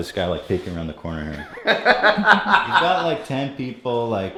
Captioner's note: laughter